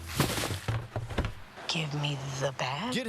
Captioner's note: confused